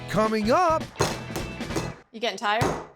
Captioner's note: pounding sound